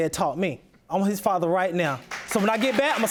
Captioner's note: audience applauding